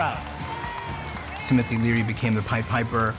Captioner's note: crowd cheers and applauds